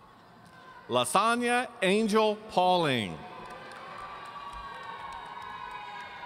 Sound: audience cheering

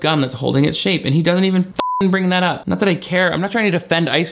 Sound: beep

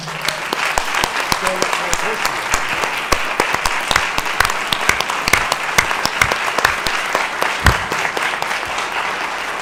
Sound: applause

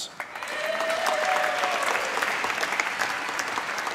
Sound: applause

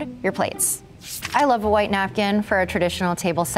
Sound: page flapping

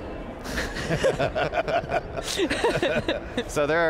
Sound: all Laughing

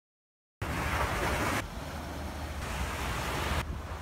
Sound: waves crashing

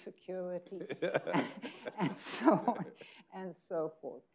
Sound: people laughing

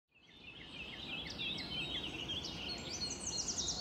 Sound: birds chirping

